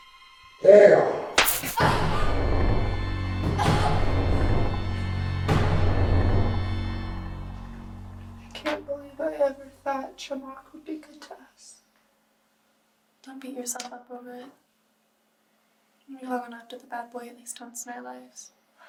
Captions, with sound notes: Whore! [Hannah yelps] [ominous music] - I can't believe I ever thought Chemock would be good to us. - Don't beat yourself up over it. We all long after the bad boy at least once in our lives.